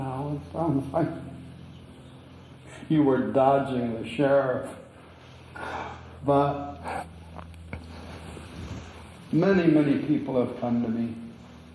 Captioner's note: laughs